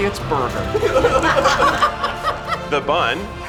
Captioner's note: crew laughs